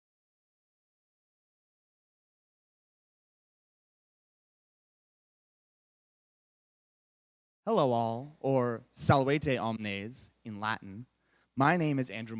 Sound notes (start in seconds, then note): 9.6 speaks Latin